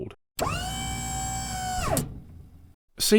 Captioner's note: pneumatic whine